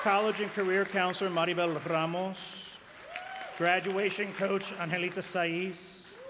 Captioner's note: applause